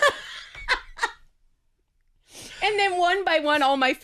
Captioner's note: laughing